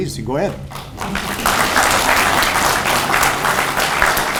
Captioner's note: audience applauds